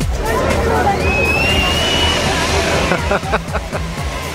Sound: screaming; laughing

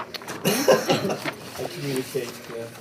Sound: laughs

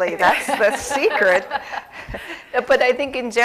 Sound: laughter

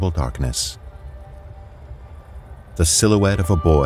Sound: water trickling gently and subtle mechanisms

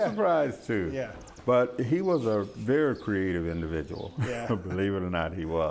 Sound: chuckles

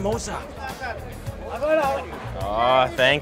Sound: speaking foreign language

